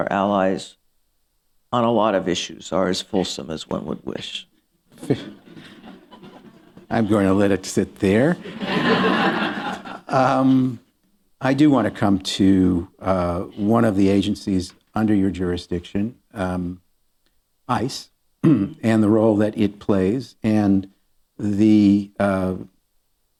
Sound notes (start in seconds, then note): 2.0 laughter